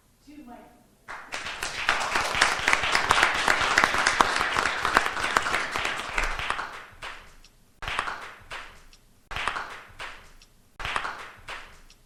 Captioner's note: applause